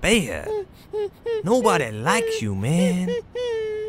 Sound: dog whimpering

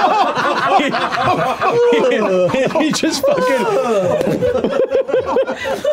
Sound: makes the sound of the guard falling over

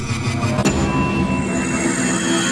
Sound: ding!!!

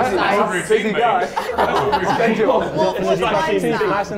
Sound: laughs

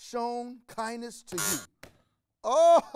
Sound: buzzer rings

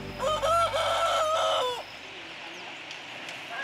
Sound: rooster crowing

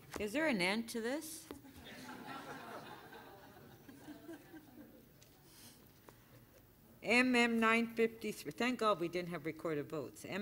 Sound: laughter

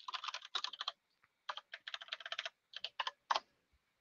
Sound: keyboard clicking

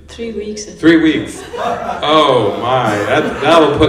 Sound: laughter

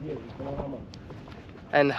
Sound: speaking in foreign language

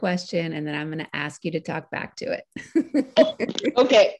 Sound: laughing

